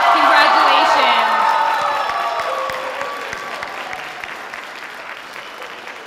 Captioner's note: sustained audience applause